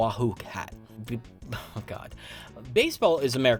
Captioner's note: laughs